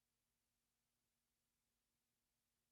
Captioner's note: none